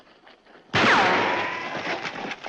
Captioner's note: punch; firing